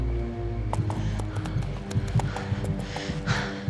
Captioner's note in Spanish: ruido de los cascos